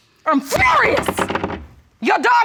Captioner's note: gavel clatters